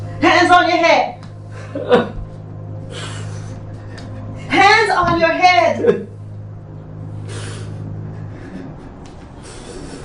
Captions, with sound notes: - Hands on your head! (crying) Hands on your head! (sobbing)